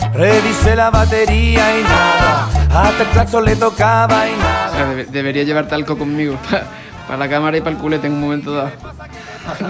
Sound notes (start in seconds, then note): 1.5 until horn honked and nothing